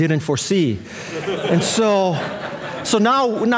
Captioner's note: audience laughing